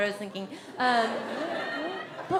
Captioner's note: audience laughs